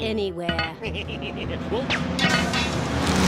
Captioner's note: laughs wickedly